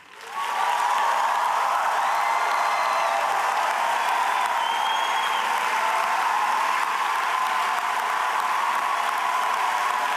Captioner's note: applause; cheers and applause